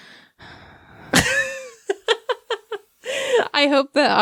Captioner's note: heavy sigh